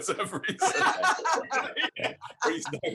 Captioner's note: laughter